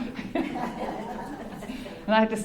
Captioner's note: laugh